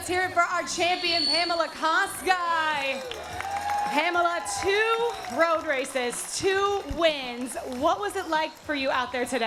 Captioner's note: cheering and applause